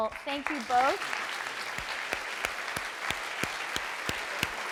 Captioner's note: clapping